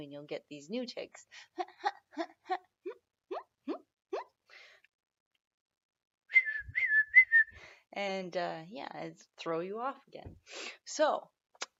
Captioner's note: hum, squeak, whistle